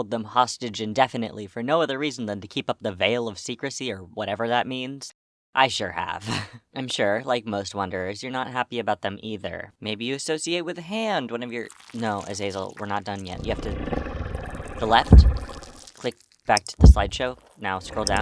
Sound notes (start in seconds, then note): 13.6 grumbles; 18.0 growls